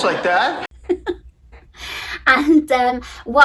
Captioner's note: laughing